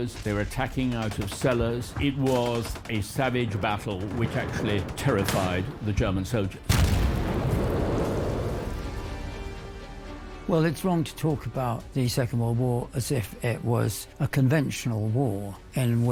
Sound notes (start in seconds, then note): 6.6 bomb booms; 6.7 intense music